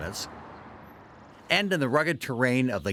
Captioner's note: birds chirping